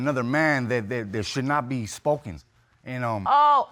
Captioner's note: stuttering